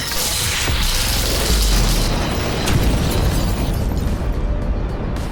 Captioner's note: explosion